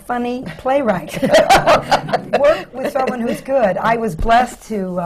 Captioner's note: laughter